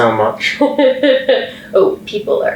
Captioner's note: laughing